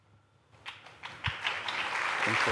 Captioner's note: applause